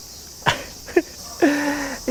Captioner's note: chuckles; gasps